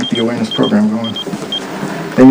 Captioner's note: phone beeping